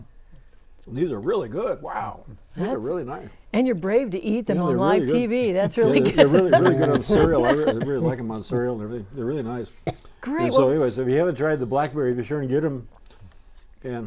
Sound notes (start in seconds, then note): 5.4 laughing